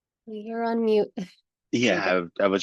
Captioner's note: laughs